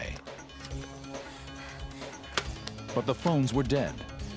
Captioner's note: Jan panting